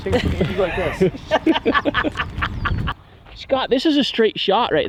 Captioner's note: laughing